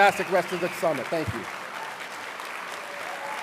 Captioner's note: applause